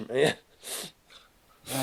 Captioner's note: Adam laughing